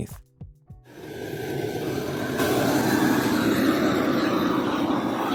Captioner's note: flamethrower whooshing